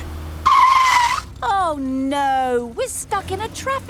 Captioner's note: tires screeching